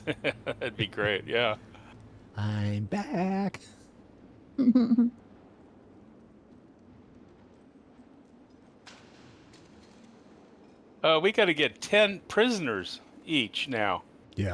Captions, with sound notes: That'd be great, yeah. I'm back. [CHUCKLES] We've got to get 10 prisoners each now. Yeah.